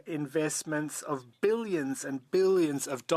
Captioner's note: speaking French